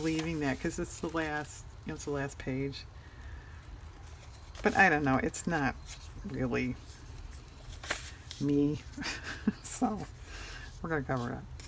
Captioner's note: laughs